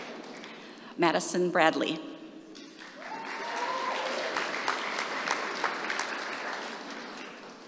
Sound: applause

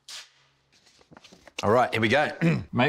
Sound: clears throat

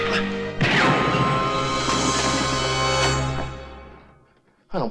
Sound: gun firing

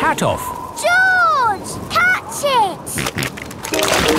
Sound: snorting

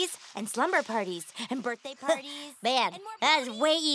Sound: voice trails off

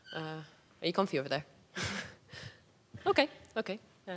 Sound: laughing

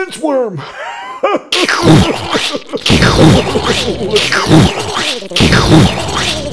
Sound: explosion

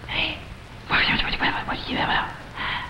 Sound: man whispers

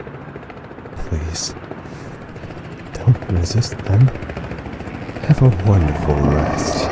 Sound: helicopter approaching; growling; helicopter approaching

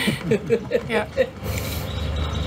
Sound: laughter

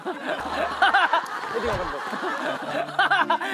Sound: thud

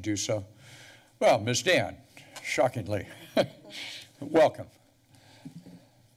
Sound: chuckles

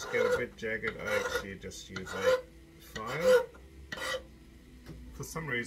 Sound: scraping; scraping

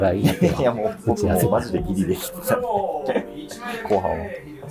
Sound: laughing

